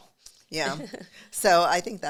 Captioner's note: giggles